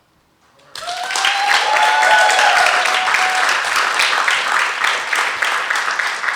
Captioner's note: audience cheering and applauding